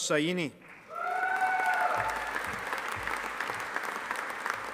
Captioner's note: audience applauding